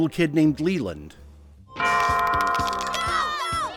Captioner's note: cheering from bench